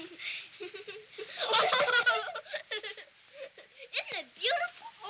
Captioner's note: girls laughing